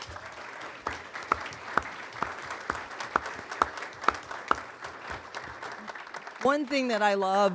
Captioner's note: applause